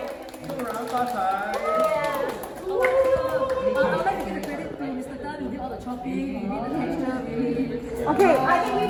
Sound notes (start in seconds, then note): 0.0 everyone cheers and claps; 1.2 cheers